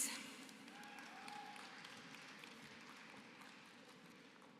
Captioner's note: applause